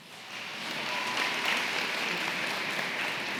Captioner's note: applause